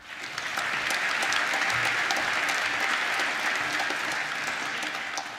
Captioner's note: applause